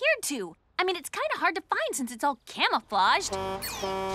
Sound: horn honks

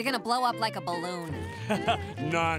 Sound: laughing

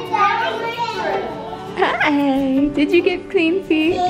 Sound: baby babbling

